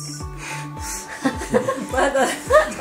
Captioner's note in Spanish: todos ríen